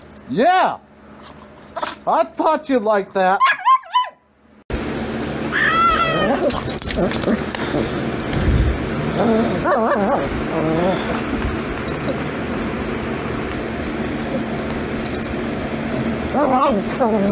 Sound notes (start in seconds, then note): 5.5 Caprice yowls and growls; 5.6 Ella growling and barking